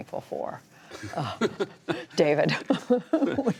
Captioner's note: laughter